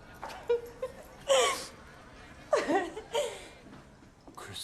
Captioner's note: laughing